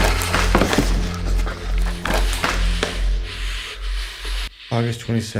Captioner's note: heavy breathing